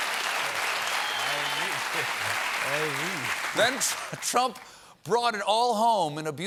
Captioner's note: cheers and applause